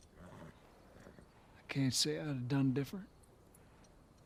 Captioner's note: sighs